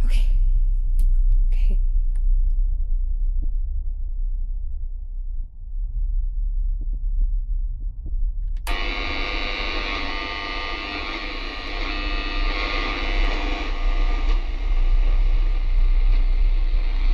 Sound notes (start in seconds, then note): 8.6 radio static